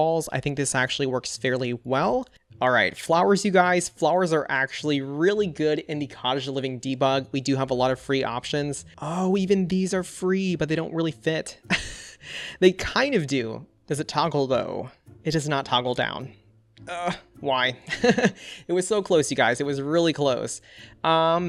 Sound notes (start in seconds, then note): 11.6 chuckles; 17.9 laughs